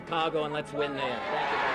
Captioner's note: cheers